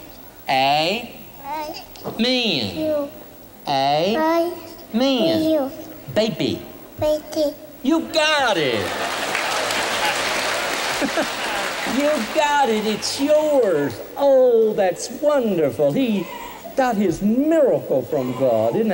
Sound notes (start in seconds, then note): 8.6 applause; 10.8 laughter